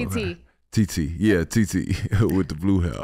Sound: chuckles

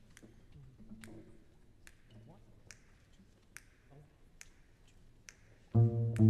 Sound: conductor snapping fingers

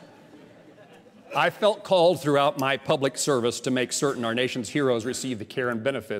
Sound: laughter

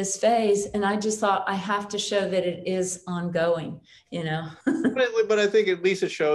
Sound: chuckles

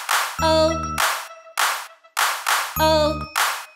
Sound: clapping; clapping

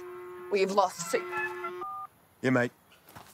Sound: phone rings

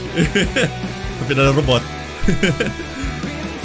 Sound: laughs

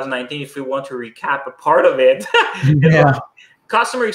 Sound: laughing

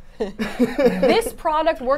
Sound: both laugh

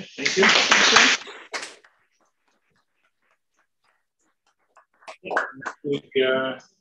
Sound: applause

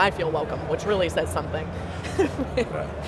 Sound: laughs

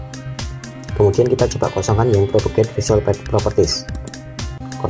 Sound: click

